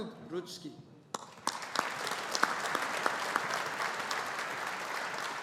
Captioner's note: audience applauding